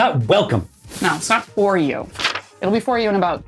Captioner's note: rattles paper